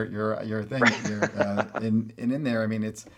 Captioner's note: laughs